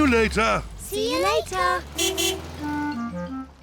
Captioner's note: car horn toots